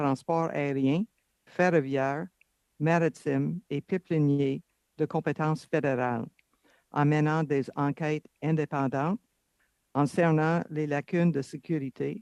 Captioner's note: speaking French